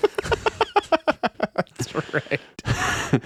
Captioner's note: laughing